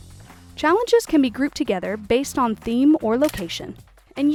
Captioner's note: camera shutter